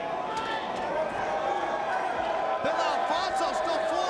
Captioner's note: crowd cheering